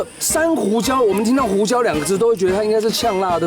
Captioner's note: in Mandarin